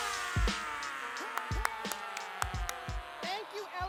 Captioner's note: applauding